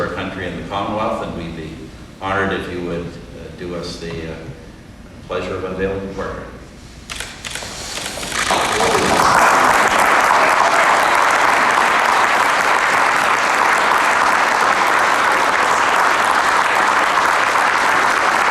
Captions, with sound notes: TO OUR COUNTRY AND THE COMMONWEALTH AND WE'D BE HONOURED IF YOU WOULD DO US THE PLEASURE OF UNVEILING THE PORTRAIT. (APPLAUSE)